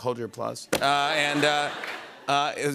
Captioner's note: laughter